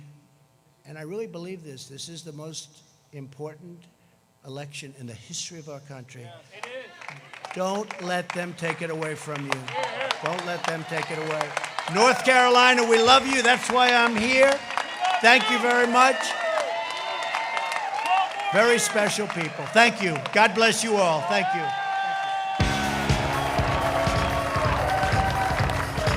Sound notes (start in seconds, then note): 17.8 applause